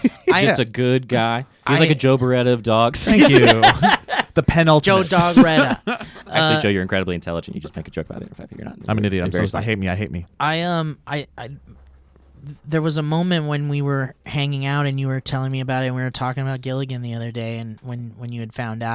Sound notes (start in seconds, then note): 3.0 laughing